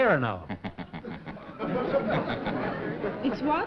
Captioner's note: laughter